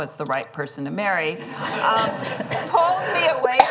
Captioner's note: laughter